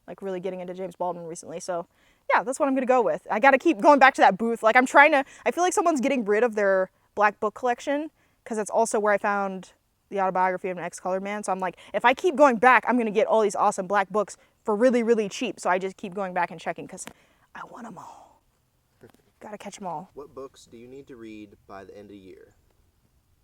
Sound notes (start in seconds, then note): 17.4 whispers